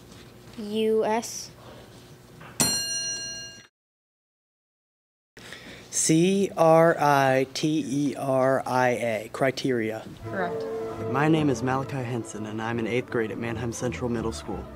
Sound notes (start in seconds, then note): 2.6 ding